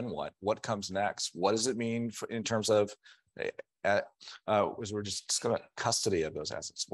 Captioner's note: stammering